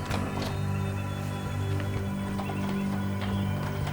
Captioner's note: door opening